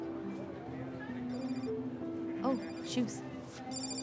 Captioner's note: phone rings